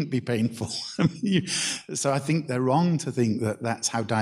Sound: chuckles

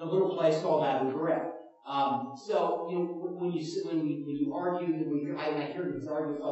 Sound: mumble to gather thoughts

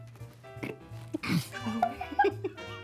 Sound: blows raspberry; both laughing

